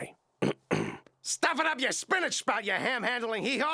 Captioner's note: in Duckman's voice